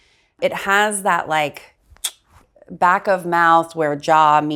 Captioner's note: tongue clicks